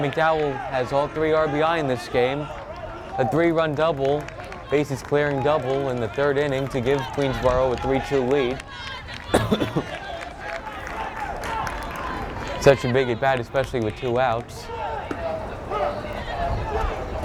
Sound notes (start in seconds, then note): 9.2 coughs